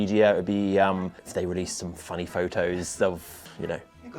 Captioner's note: laughs